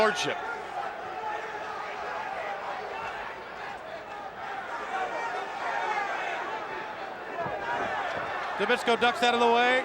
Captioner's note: applause